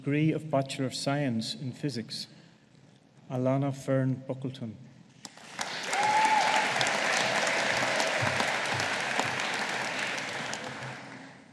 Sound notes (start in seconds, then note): 5.3 audience applauding